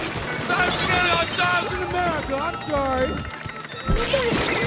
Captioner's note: Randy gibberish